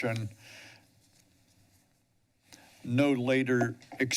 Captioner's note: pause